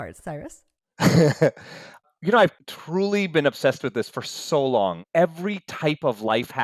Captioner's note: laughs